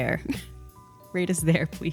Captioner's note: laughs